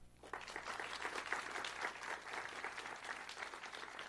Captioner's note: audience clapping